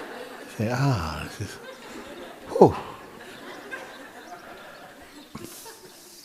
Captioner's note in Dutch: gelach